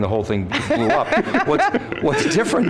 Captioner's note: laughter